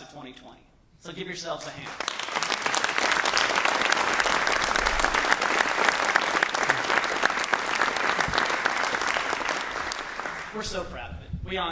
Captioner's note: applause